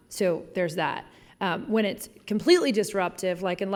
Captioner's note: none